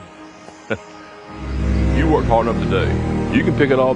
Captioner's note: chuckles